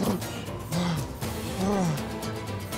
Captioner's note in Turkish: Dövüş sesleri; Nefes sesi